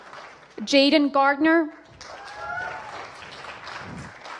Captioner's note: applause